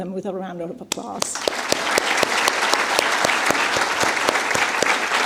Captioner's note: applause